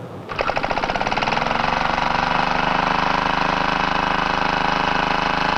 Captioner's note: machine whirring